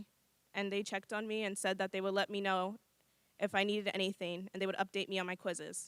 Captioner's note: none